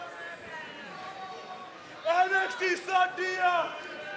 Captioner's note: crowd chatter